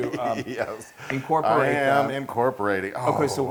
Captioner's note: laugh